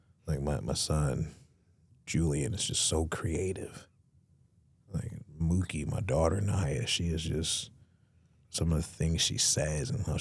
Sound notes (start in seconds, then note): none